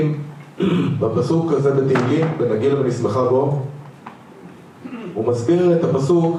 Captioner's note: clears throat